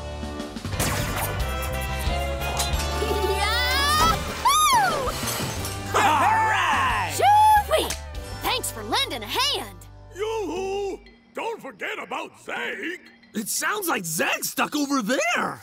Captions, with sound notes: [cheering] -All right! -Shoo-wee! Thanks for lending a hand. Yoohoo! Don't forget about Zeg. It sounds like Zeg stuck over there.